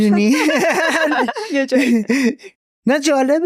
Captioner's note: laughs